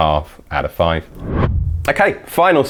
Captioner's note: whooshing